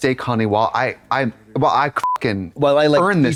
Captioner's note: beep